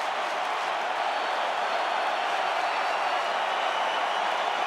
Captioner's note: audience cheering; audience clapping